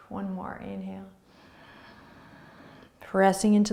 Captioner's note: inhaling